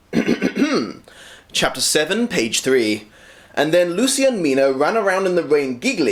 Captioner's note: clears throat